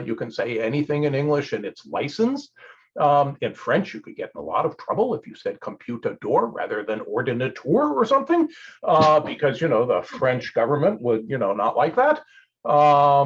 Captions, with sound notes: You can say anything in English and it's licensed. In French, you could get in a lot of trouble if you said, (speaks in French) rather than (speaks in French) or something, because the French government would not like that.